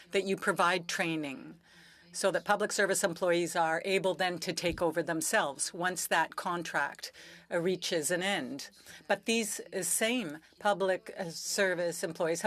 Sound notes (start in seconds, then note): 3.4 speaking french